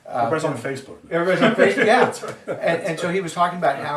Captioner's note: laughs